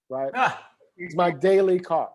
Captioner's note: laughs